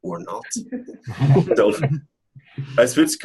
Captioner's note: laughing